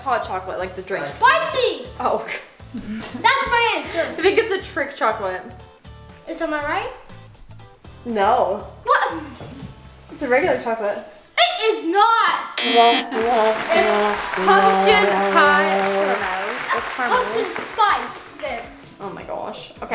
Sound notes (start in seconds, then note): 12.6 incorrect buzzer rings; 13.6 sad music plays